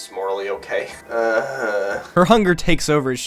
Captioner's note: groan